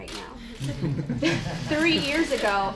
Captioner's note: laughter